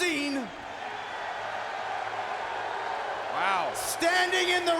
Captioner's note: crowd cheering and booing